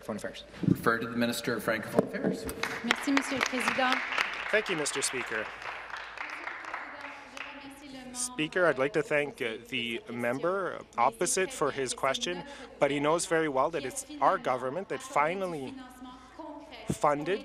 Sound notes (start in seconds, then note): 7.7 speaking French